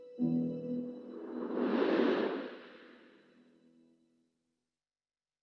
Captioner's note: air whooshing